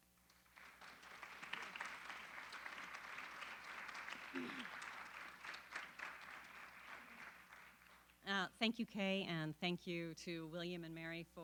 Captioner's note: applause